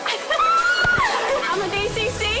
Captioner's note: cheerleader cry laughing; girls yelling